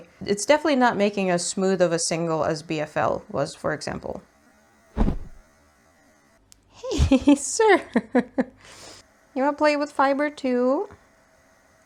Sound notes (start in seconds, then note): 4.9 whoosh; 8.1 giggles